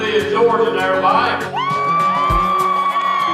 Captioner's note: crowd cheering